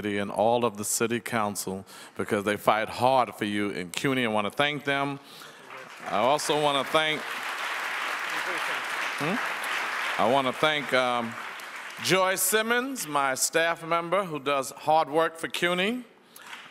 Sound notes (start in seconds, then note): 8.0 audience applauds; 16.4 audience applauds